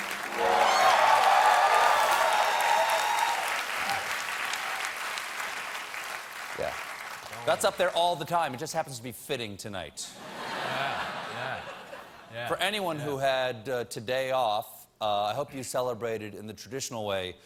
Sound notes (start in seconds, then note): 4.2 applause; 10.2 laughter